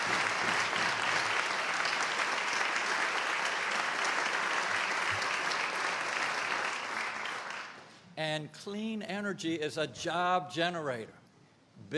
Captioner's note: applause